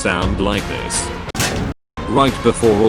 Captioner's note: shovelling sounds